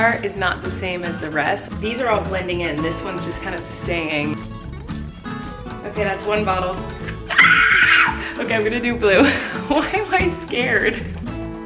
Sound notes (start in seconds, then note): 7.2 screams; 11.4 upbeat music